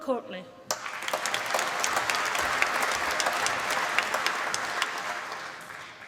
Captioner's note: applause